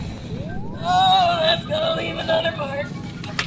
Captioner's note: groaning